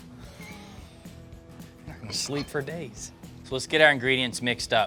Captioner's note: chuckles